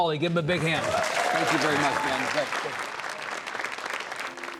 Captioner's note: audience applause